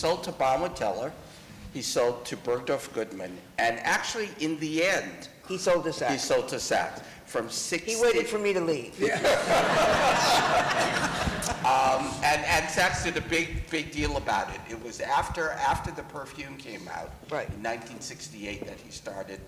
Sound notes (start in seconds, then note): 9.0 laughter